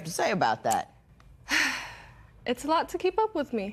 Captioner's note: sighs